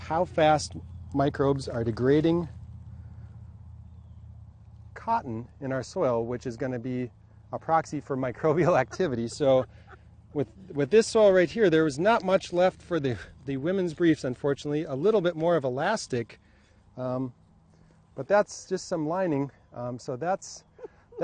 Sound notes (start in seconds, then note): 8.6 laughs